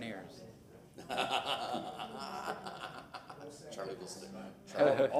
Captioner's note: laughter